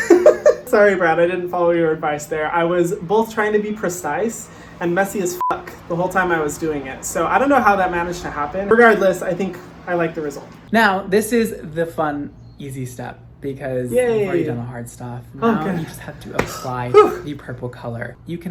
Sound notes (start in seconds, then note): 0.0 laughs; 5.4 beep